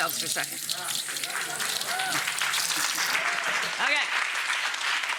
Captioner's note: applause